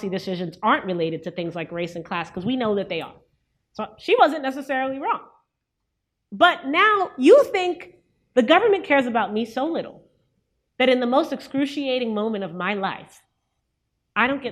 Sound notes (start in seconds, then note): none